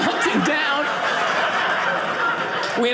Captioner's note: audience laughing